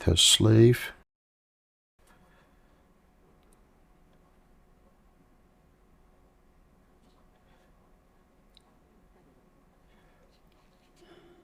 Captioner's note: silence